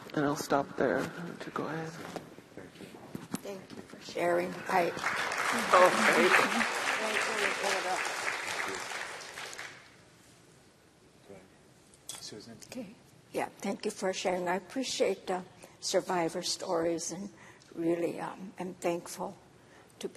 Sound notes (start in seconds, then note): 4.5 applause